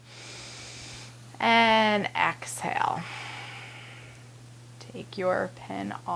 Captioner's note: inhaling; exhaling